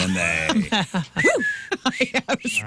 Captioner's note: laughter